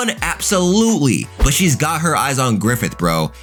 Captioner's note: air whooshing